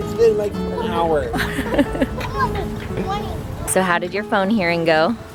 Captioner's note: laughs